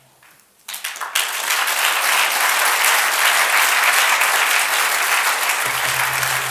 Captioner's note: applause